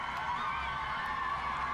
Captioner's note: cheers